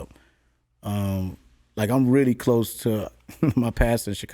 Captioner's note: chuckles